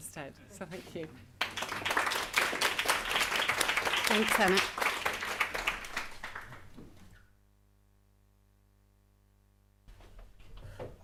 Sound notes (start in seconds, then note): 8.2 applause